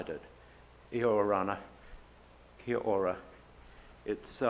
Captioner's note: speaks in foreign language